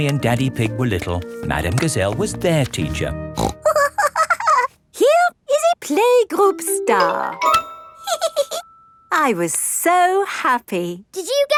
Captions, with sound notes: when Mummy and Daddy Pig were little, Madame Gazelle was their teacher. (SNORTS AND GIGGLES) Here is a playgroup star! (GIGGLES) I was so happy.